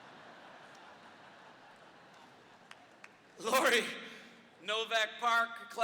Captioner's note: audience laughter